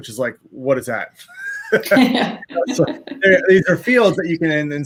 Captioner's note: laugh